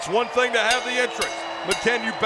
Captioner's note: bell ringing